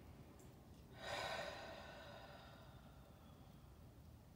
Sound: exhales

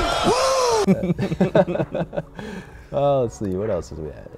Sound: laughing

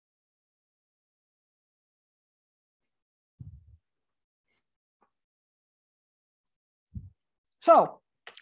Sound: silence

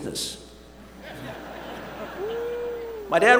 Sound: laughter

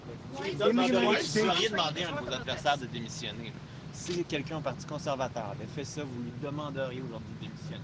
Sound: speaking in French

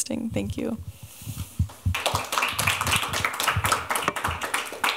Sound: applause

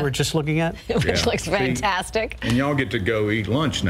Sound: laughter

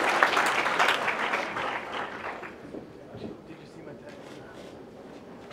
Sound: applause

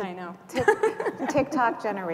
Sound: laughter

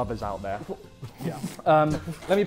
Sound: Sidemen giggling

